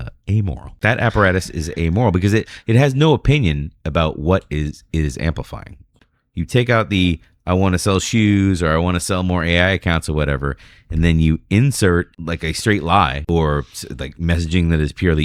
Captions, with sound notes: amoral. That apparatus is amoral because it, it has no opinion about what is. Is amplifying. you. Take out. The. I want sell shoes or I. Want Sell more [UH] accounts Whatever. And then you. Insert like a. Straight lie. Or like. Messaging. That is purely.